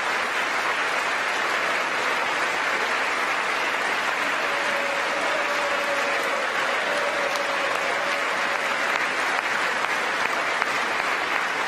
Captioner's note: applause